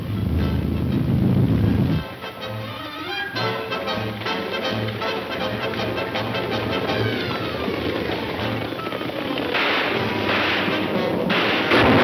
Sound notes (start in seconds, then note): 0.1 dramatic music; 7.0 horses gallop; 7.0 several gunshots; 9.5 thunder